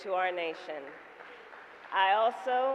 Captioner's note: applause